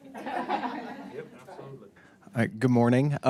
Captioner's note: audience laughs